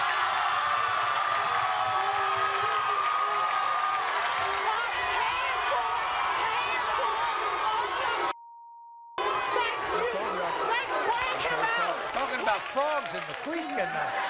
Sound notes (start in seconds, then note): 8.3 beep; 14.1 audience laughs